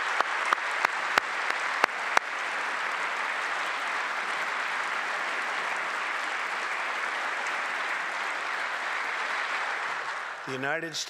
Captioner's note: applause